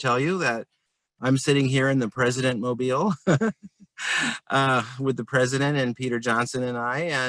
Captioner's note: laughter